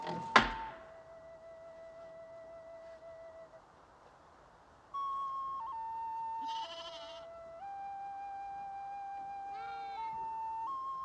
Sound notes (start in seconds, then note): 6.4 goat bleating